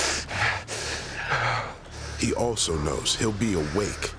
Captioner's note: panting